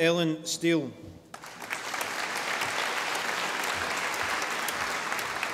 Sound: audience applauding

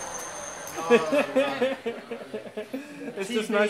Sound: laughter

